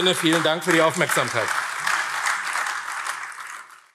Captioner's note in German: Beifall AfD